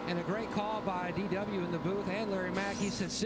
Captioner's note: radio